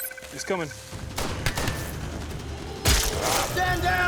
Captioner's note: beep; gunfire